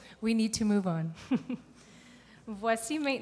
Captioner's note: chuckles